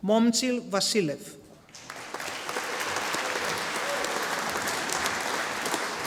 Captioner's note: audience applauding